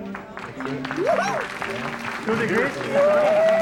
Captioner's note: crowd cheering